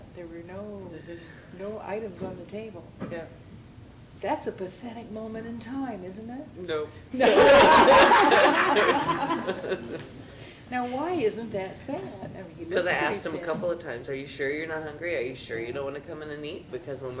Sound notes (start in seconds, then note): 7.3 chuckles